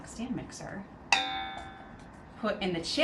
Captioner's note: bowl clanging